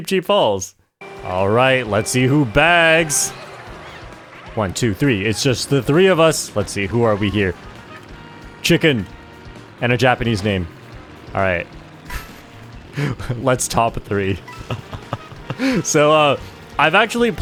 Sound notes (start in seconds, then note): 14.1 laughs